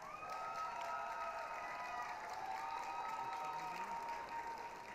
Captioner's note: applause, cheering